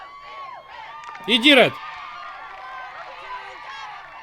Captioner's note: crowd cheering